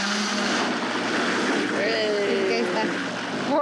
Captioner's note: speaking Spanish